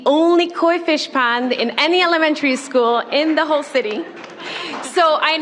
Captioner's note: applause